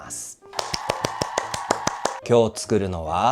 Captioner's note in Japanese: 拍手